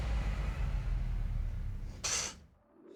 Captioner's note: scoffs